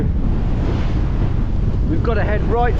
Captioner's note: wind blowing loudly